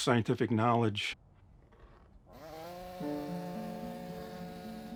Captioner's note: tool buzzing